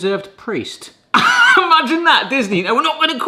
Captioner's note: chuckles